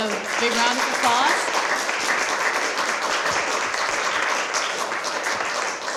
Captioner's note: applause